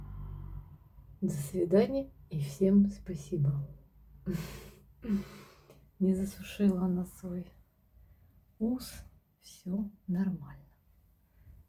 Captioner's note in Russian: тяжело вздыхает